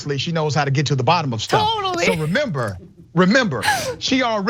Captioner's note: laugh